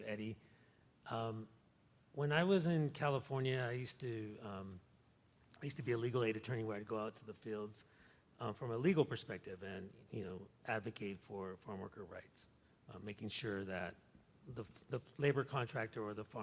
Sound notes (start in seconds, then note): none